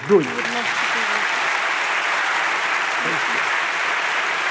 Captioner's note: audience applauds